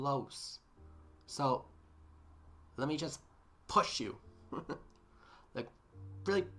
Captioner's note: laughs